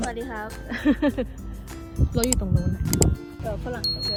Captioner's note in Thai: หัวเราะ